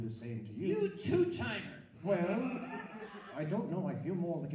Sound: audience laughs

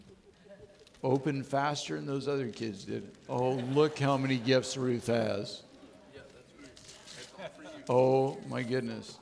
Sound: audience laughing

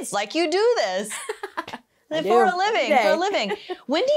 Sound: laughs

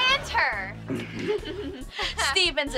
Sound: giggling

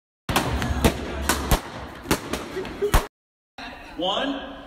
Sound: balloons popping

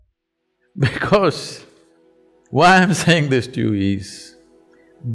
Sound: laughs

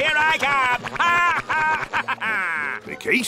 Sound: laughing

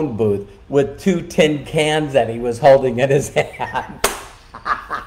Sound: laughing

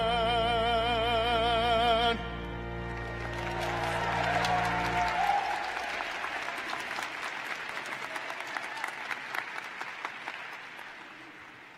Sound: cheering and applause

